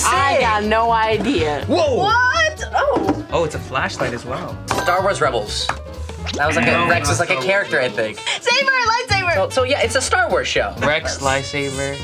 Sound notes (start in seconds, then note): 7.0 buzzer buzzes